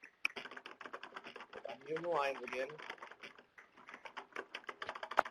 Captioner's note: typing sounds